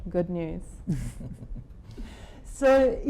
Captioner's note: chuckling